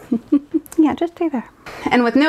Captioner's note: chuckles